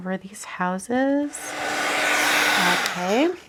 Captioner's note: tool whooshing